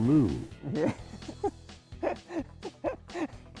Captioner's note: laughs